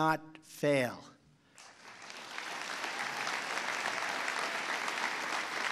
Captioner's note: applause